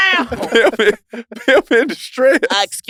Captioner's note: laughs